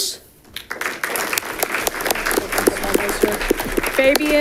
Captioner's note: audience clapping